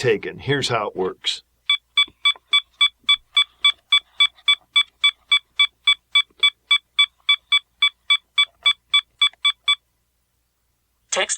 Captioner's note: beeping